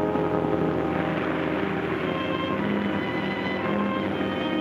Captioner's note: water splashes